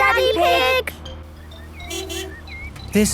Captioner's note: honking